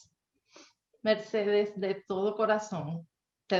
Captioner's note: speaking spanish